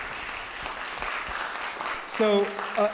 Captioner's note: audience applauding